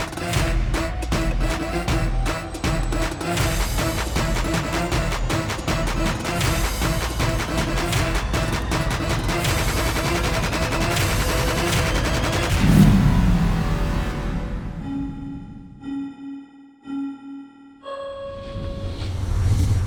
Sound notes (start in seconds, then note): 14.9 clock ticking